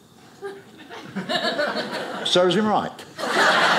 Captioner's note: audience laughing